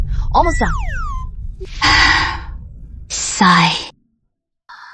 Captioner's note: sigh